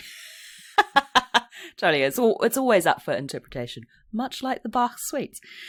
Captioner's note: laughs